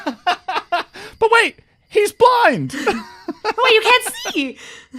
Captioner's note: laughs